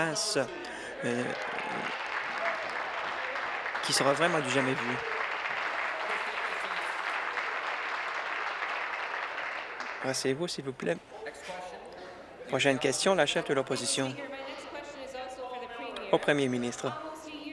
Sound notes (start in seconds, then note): 4.1 applause